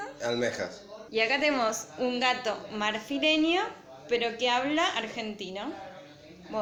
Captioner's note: Spanish